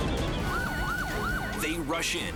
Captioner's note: whistle chirping; sirens screaming